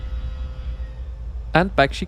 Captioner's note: engine Noise